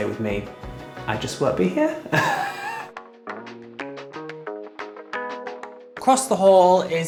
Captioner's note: laughs